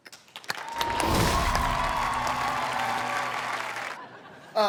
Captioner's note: cheering